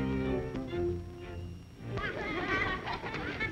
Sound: laughter

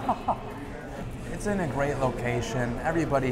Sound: laughs

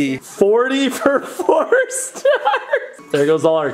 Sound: laughing

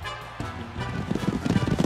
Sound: thudding hooves

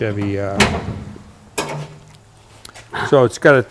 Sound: hood clicking

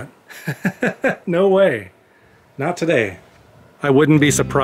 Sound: laughter

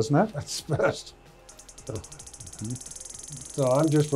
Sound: machine pulsing

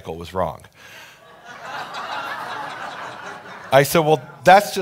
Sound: audience laughing

